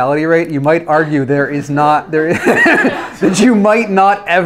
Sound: laughs

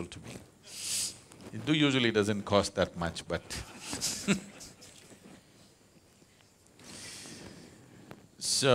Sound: laughs

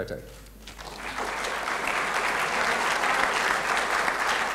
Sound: applause

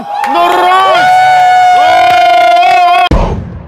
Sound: sound of cheering

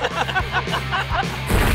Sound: all laughing

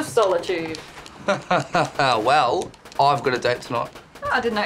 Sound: laughs

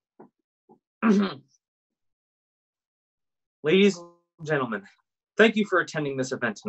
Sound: clears throat

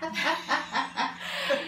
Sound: laughs

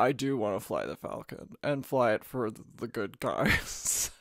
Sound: laughs

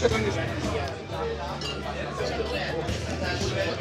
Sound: crowd chattering

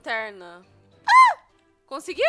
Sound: scream

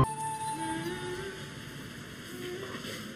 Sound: humming

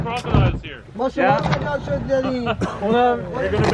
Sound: speaKing foreign language; chuckles

